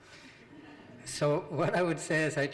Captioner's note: audience laughing